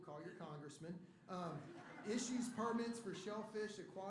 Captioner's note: laughter